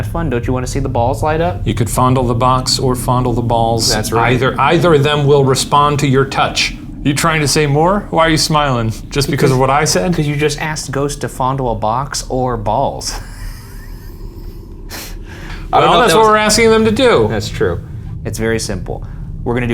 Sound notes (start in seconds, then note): 12.8 laughing